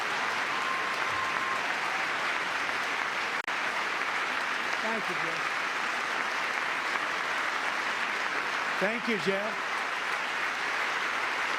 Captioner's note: applause